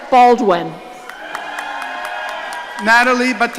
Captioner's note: audience cheering